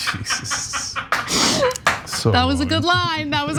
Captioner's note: laugh